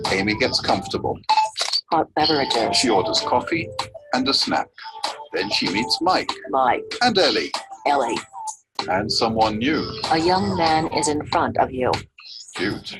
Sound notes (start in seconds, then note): 0.6 OrCam reads Hot beverages